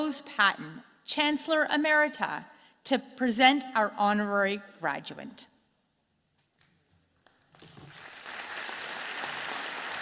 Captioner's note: applause